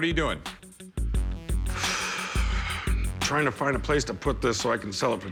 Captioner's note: sighs